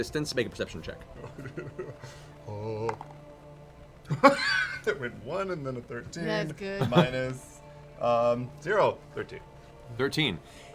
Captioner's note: laughs